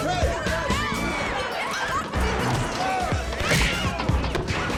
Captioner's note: record needle scratches; deejay starts scratching record hip-hop style